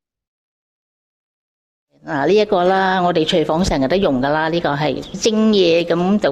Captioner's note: storyteller 2, in Cantonese